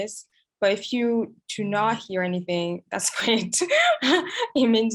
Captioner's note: laughs